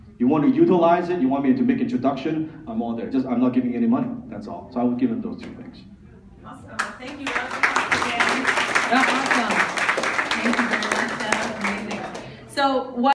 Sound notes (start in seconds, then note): 6.8 applause